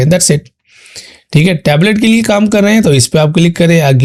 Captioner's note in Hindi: नाक से की जाने वाली आवाज़